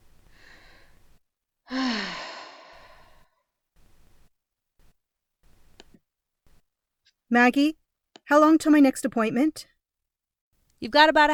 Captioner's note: sigh